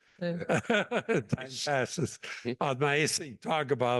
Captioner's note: laugh